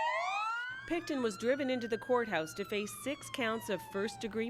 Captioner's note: sirens wailing